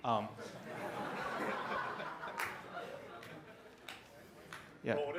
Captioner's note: laughter